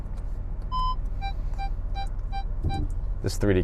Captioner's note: beeping